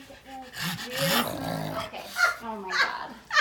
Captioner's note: Murphy snorts